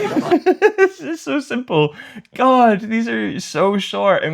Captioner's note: laughter